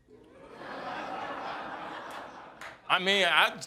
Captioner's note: audience laughing